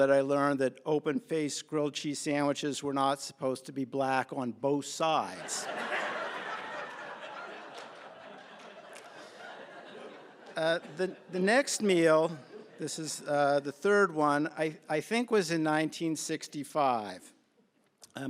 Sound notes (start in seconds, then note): 5.3 laughter